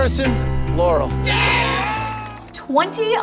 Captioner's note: all cheering